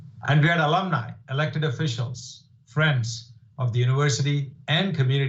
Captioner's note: none